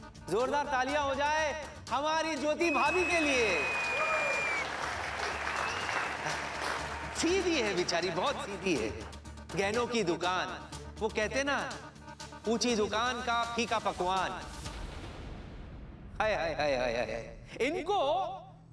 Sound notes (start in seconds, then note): 2.6 cheer and applause